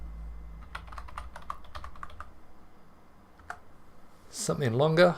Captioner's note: keyboard clacking